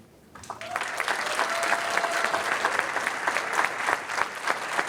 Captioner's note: applause